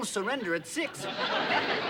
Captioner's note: laughter